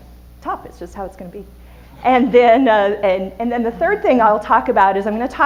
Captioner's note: audience laughter